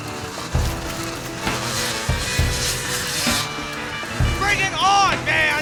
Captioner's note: bike whirring; gentle music